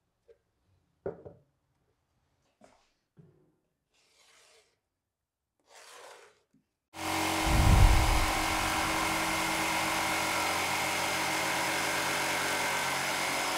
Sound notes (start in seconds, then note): 7.0 saw brattling; 7.4 description whooshing